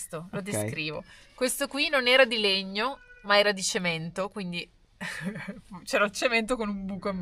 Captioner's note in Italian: risate